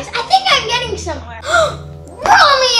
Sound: gasps

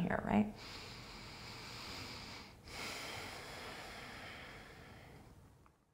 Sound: deep breathing

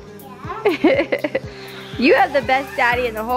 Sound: laughs

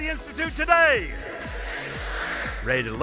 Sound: crowd

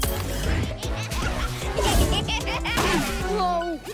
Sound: laughter

